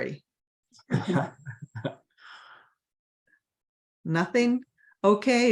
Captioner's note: laughter